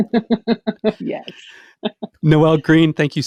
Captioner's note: chuckling